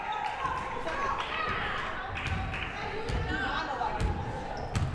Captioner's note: crowd murmuring